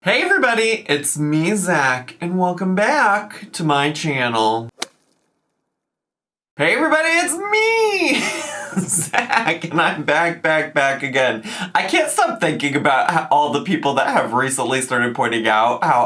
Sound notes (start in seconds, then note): 4.6 logo thuds; 8.0 laughs